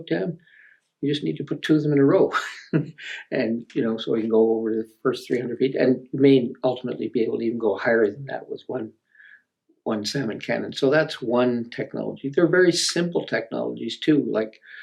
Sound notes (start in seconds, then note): 2.4 laughs